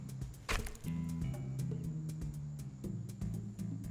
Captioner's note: flesh squelches